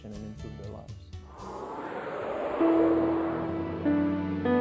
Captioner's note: air whooshing